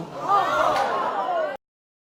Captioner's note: exclaiming